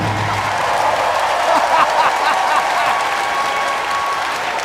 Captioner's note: audience cheering